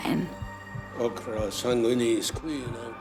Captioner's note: speaking latin